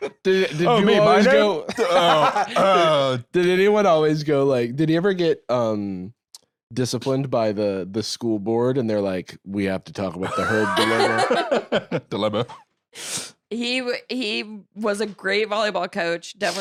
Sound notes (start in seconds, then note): 10.2 laughs